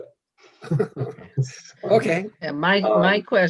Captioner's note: members laughs